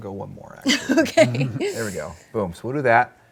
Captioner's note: laughs